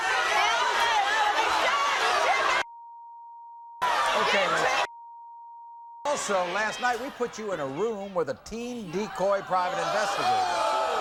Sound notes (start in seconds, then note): 0.0 audience shouts; 3.0 beeps